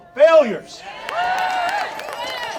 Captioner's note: audience cheering